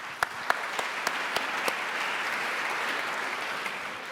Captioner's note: applauding